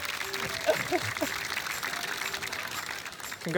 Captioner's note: mock sobs